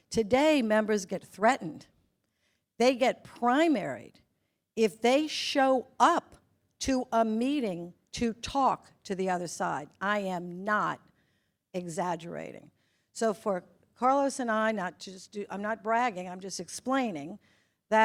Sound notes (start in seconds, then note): none